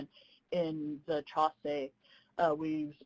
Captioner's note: speaking in foreign language